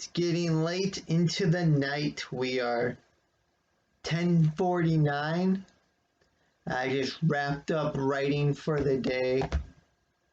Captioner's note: clap of phone against desk